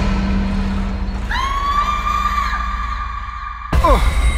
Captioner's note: ominous music; loud screaming